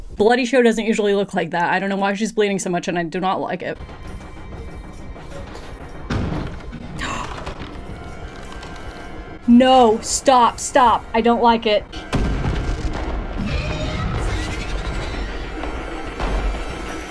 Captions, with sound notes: Bloody show doesn't usually look like that. I don't know why she's bleeding so much and I do not like it. (intense music) (creature's hand thuds) No, stop, stop. I don't like it. (creature roaring) (intense music)